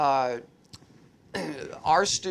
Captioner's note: clears throat